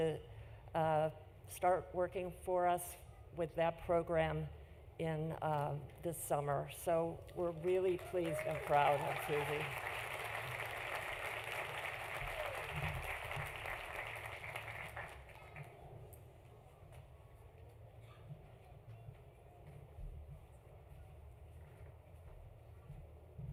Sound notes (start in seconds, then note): 12.1 applause